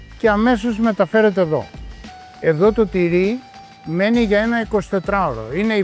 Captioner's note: speaking in foreign language